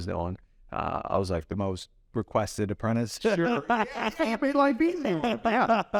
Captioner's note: laughs